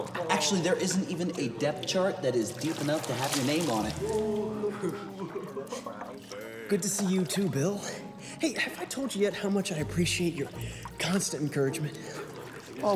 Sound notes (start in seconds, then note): 3.8 boys laugh and jeer